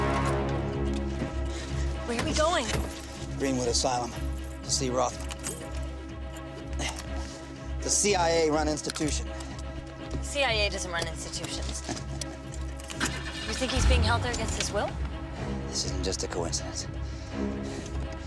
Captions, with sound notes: Where are we going? Greenwood Asylum to see Rothman. It's a CIA-run institution. The CIA doesn't run institutions. - (chuckles) - (engine starts) You think he's being held there against his will? This isn't just a coincidence.